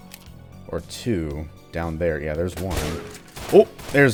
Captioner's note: more gunfire